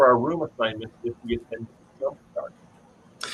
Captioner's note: audio warble